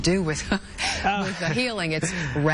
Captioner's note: laughter